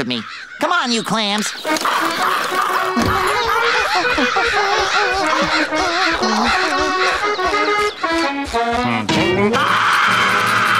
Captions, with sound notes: Come on, you clams. [humming] [screaming]